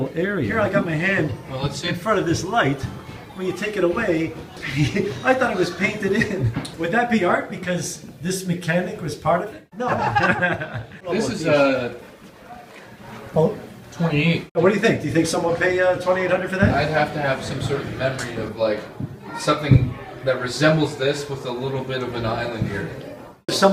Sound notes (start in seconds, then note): 4.3 laughing; 9.8 laughter